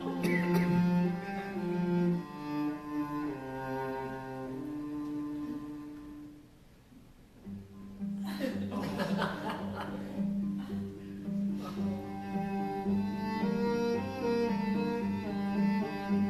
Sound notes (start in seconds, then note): 8.2 laughter